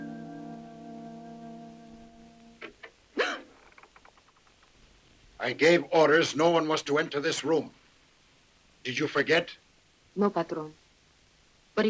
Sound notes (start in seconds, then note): 3.2 Juanita gasps